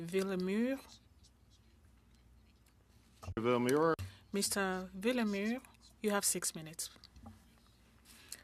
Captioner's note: speaking French